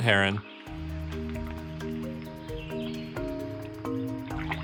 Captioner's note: birds chirping